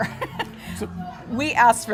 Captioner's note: laughter